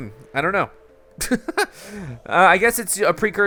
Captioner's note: laughs